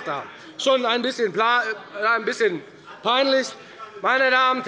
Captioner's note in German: none